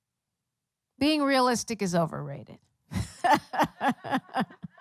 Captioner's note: laughter